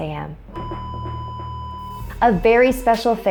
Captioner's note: long beep